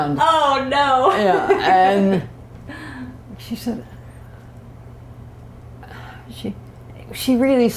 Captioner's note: laughter